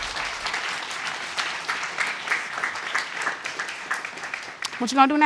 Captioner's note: audience applauds